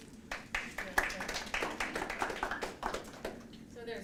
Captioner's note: applause